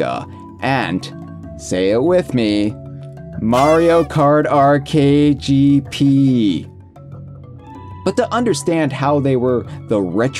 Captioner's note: party horn